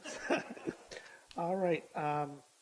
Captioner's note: chuckles